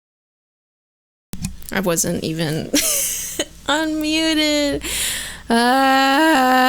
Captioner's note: laughs